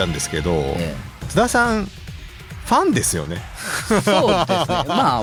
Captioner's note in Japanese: 笑い